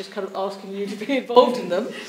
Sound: chuckles

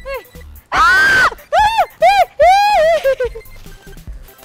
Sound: screams in fear

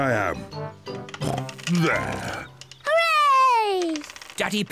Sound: snorts

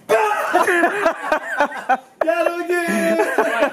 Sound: laughing

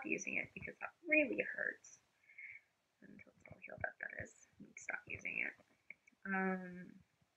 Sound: mumbles

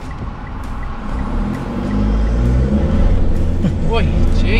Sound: vehicle accelerating, engine revving

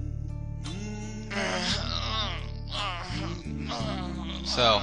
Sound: groaning throughout

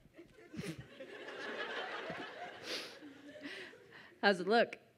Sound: audience laughs

